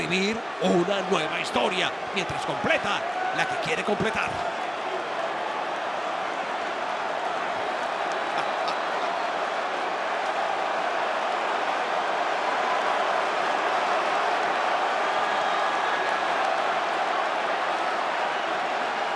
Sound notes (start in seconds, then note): 5.5 applause